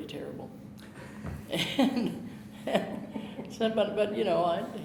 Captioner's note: chuckling